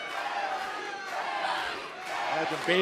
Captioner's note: fans chanting